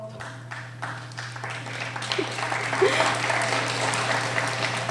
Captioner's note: applauding